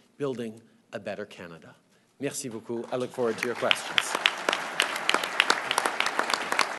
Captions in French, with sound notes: plus solides, pour bâtir un meilleur Canada. Merci beaucoup, je vais maintenant répondre à vos questions. (Applaudissements)